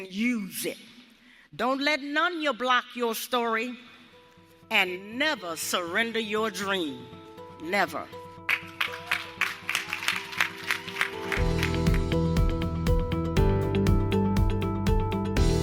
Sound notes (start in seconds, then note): 8.5 cheers and applause